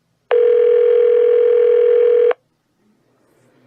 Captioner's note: phone still ringing